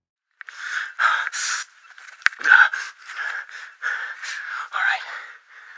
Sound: audio coming through bad quality mic; heavy breathing

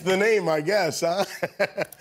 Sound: laughter

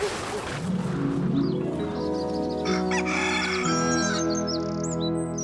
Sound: dog Barking; birds Singing; rooster Crowing

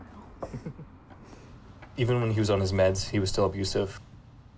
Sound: chuckles

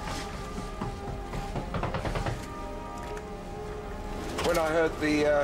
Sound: knocking on hull continues

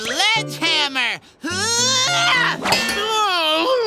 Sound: grunting; groaning

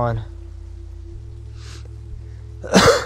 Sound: coughing

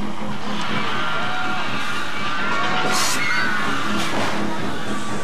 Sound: crowd screaming; dramatic music continues

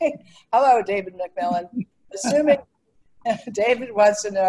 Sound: laughs

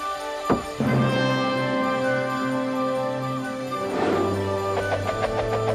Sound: bread roll whooshing

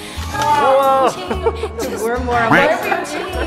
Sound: all cheering and laughing

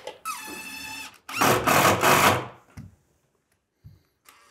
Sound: driver whirring

